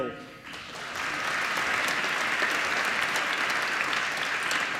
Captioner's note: applause